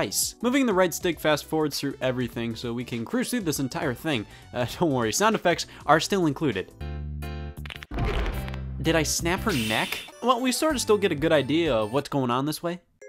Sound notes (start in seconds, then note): 7.6 sounds of snapping and someone falling